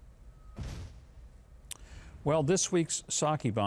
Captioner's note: bomb explodes